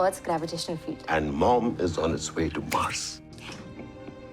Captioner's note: finger snapping